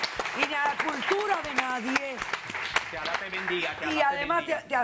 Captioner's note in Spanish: Aplausos